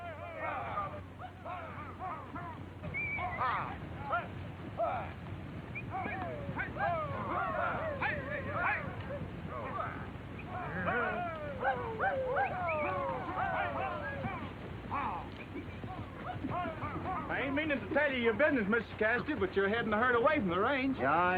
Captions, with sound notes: (men yelling) (men whistling) - I ain't meanin' to tell ya your business, Mr. Cassidy, but you're headin' the herd away from the range.